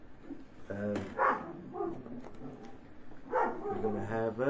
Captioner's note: dogs barking, seems all ten of them